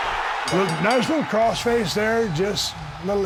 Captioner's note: crowd cheering; bell dings